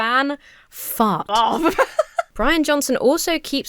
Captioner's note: laughs